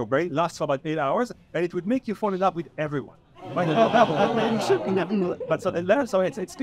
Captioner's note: audience laughs